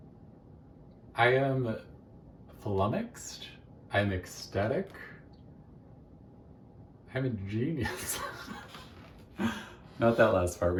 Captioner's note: laughs from my own audacity again